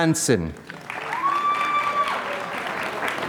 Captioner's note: applause